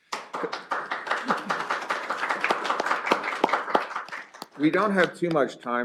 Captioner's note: applause